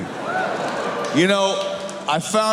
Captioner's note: cheers